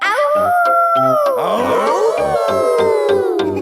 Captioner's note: howling; all howling